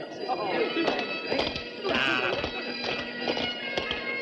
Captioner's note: indistinct chatter